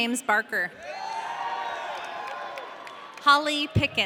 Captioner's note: audience cheering